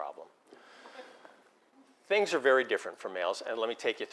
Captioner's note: laugh